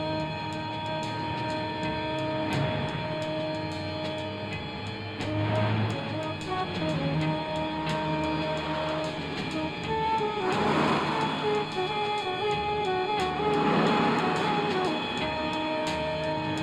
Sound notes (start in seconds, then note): 0.0 jazz beat & ominous tone; 0.8 traffic sounds